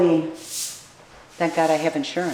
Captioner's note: sweeping